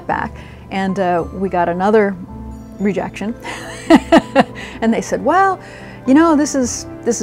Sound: laughs

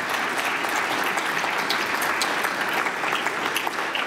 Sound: applause

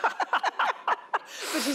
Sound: laughter

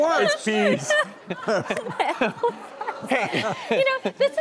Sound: laughing

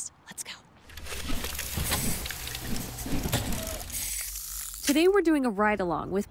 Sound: cogs turning

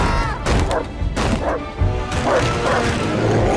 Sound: screaming; barking; pounding; barking

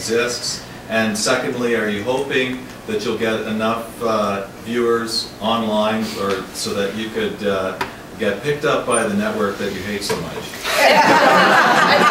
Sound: laughs

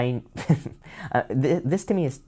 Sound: chuckles

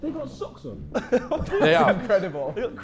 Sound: Sidemen laughing

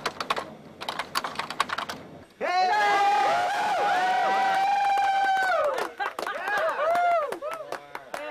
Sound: WILD CHEERING clapping laughter

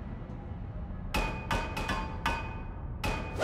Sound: knocking

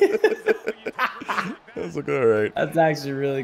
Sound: laugh

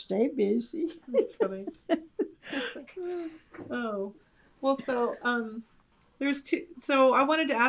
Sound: laughs

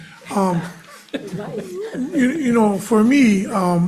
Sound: panel laughs

